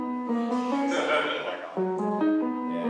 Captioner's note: laughter